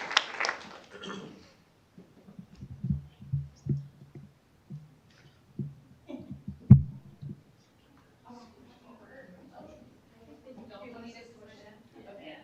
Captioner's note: applause